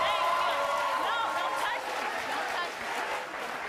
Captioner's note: audience roars and applauds